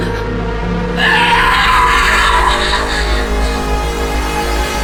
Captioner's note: Ally screaming